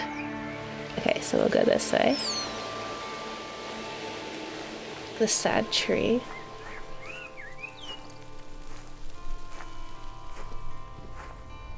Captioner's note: birds chirping